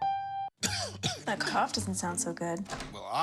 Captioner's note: coughs